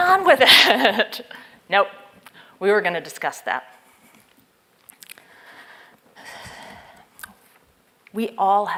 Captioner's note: laugh